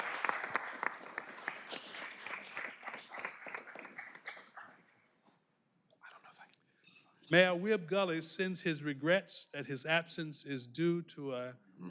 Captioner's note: applause